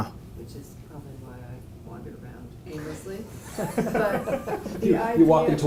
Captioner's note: laugh